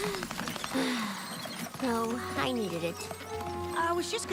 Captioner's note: sisighs